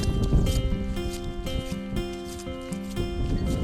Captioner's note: wind blows